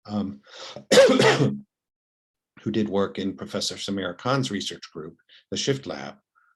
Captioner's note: cough